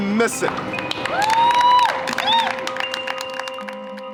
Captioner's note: crowd cheering